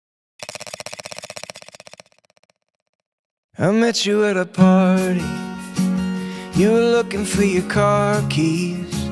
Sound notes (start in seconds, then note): 0.4 film rolling